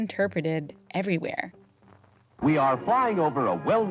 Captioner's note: soundbite of archived recording